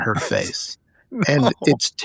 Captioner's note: laughing